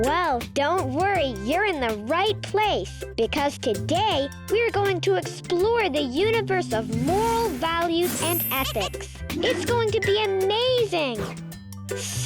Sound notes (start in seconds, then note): 8.4 planet laughing and clinking